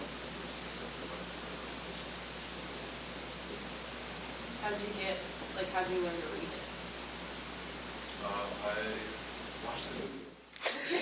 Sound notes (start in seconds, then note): 10.7 audience Laughter